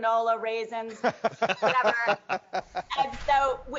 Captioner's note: doctors laughing